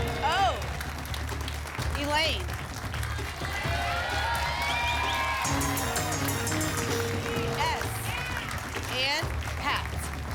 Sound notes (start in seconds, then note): 2.9 applause and cheering; 5.4 pinging sounds; 10.1 applause and cheering